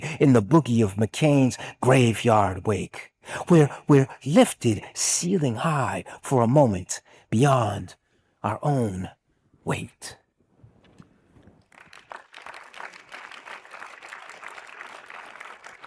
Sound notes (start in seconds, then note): 11.6 audience applauds